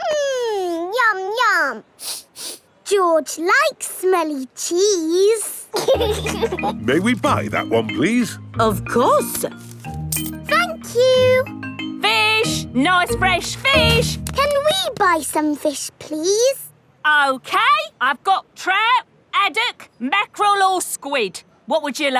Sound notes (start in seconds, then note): 2.0 sniffs; 5.7 laughing